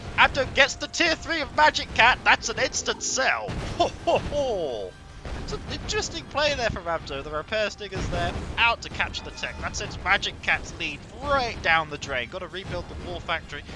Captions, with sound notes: Abdo gets the Tier 3 of MagicCat and thats an instant sell *deep chuckling* It's an interesting play there from Abdo there, the repair Stingers there out to capture the tech The sends MagicCats needs right down the drain - got to rebuild the War Factory